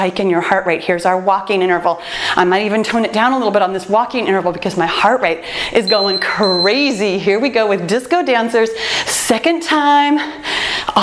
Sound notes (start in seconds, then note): 5.8 timer beeps